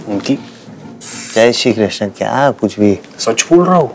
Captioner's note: Blows air